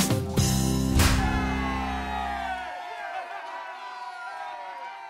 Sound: crowd cheering

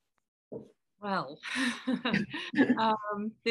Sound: laughter

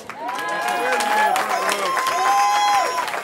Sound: cheering

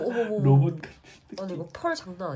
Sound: hahahahaha

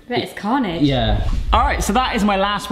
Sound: air whooshing

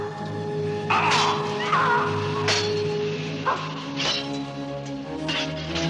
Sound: clinking; yelling

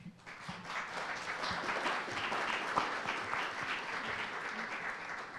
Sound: audience applauding

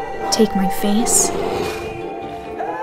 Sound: bear growls

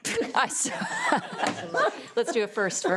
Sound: people laugh

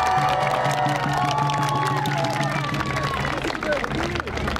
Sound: applause

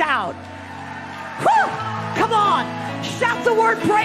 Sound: congregation cheering

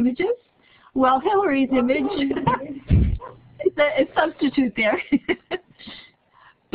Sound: laughing

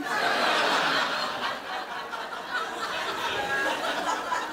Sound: crowd laughs

